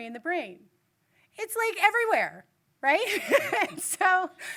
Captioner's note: laughs